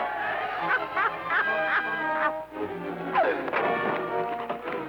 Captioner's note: crowd shouting; soldier laughing